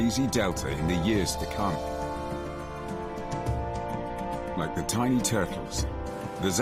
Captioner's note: upbeat music; waves crashing